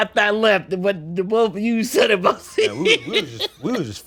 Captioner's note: laughs